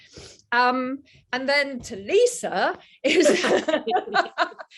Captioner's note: laughs